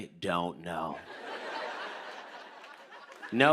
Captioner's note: laughter